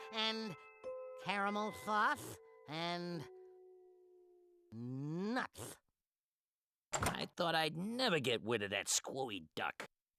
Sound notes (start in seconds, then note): none